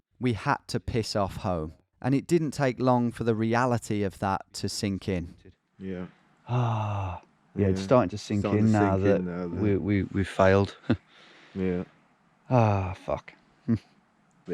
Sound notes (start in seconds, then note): 6.4 sighing; 12.5 sighs